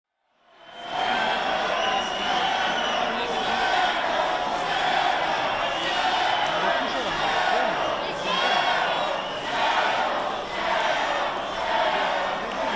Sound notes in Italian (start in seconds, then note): 0.5 Applauso